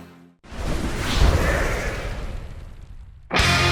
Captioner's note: swoosh